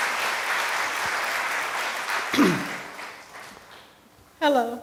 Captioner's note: applause from the audience